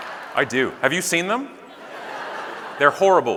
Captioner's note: audience laughing